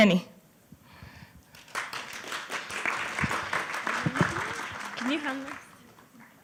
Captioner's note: applause